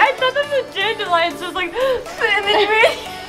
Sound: inhales

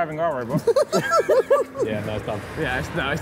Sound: all laughing

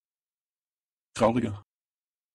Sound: fast Pronunciation

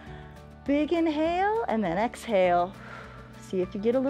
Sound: exhales

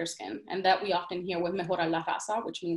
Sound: speaks in Spanish

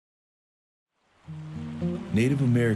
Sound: river flowing

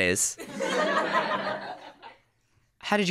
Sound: laughter

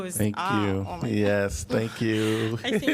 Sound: laughter

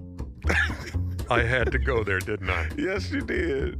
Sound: laughter

